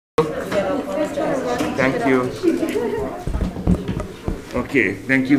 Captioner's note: people chattering